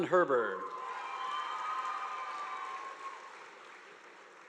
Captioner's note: audience applauding